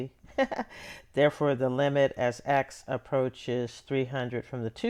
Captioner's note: laughter